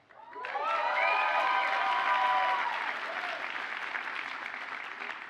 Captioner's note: audience cheers and applauds